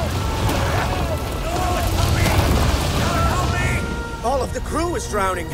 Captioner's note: sailors yell